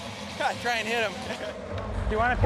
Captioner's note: laughing